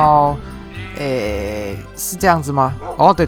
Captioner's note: thinking sound